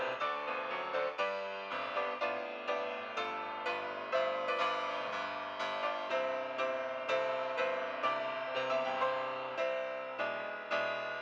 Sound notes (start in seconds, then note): none